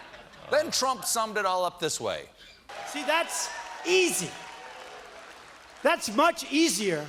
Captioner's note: laughter